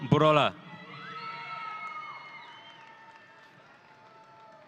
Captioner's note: audience cheering